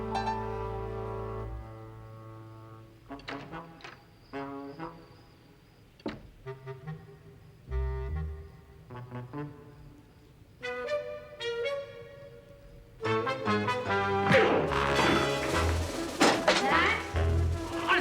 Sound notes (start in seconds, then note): 14.7 thuds